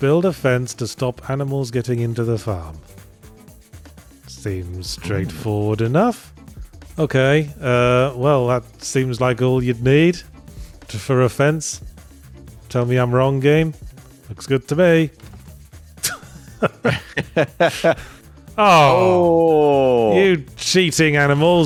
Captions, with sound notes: Build a fence to stop animals getting into the farm. Seems straightforward enough. Okay. Well, that seems like all you'd need for a fence. Tell me I'm wrong, game. Looks good to me. [LAUGHS] Oh. You cheating animals.